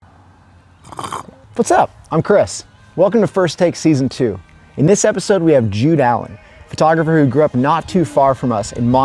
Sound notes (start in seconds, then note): 0.8 animal slurping liquid